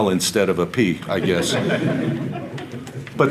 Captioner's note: audience Laughter